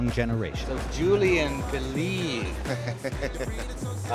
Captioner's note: laughs